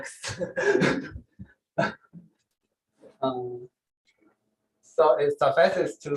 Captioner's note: laughs